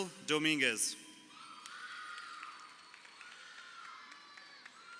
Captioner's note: crowd cheering